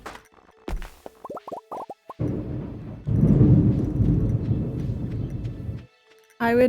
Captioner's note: thunder